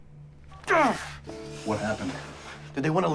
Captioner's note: Adam groans